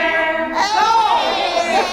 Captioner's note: cheering